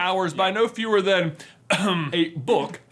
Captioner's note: clears throat